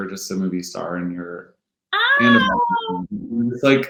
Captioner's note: gasping